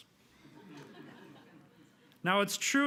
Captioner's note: audience laughing